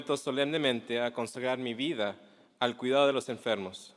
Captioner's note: mandarin; cantonese